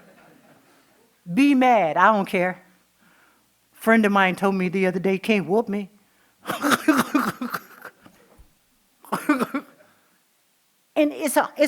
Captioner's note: laughing